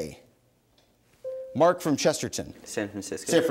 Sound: bell dings

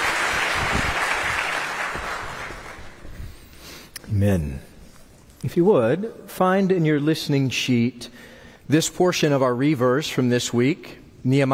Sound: applause

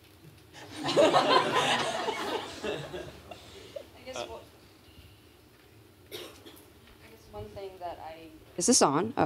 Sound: laughter

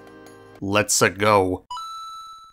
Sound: in the most monotone voice possible

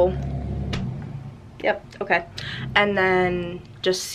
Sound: car noise

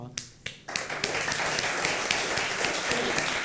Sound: applause

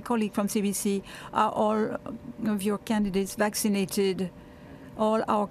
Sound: speaking French

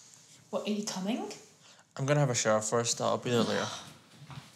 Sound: sighs

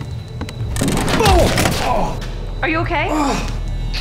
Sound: head hits beam - Adam shouts

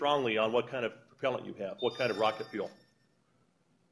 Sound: cell Phone Rings

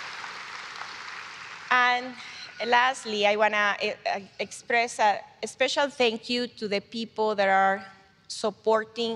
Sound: applause

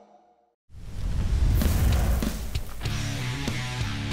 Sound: whoosh; rock music

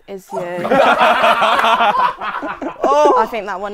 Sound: people laughing

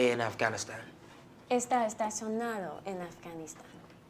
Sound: teacher speaking spanish

